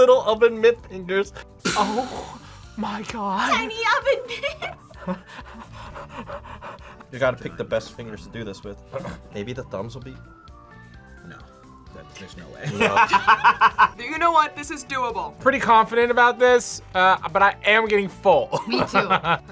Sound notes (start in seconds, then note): 4.9 group laughs; 12.7 laughs; 18.6 laughs